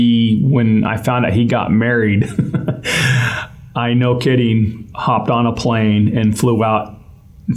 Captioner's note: laugh